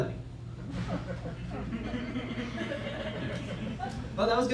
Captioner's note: laughter